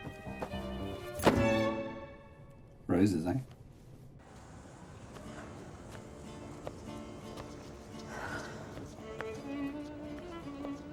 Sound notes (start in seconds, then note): 8.0 Eloise sighing; 8.7 romantic music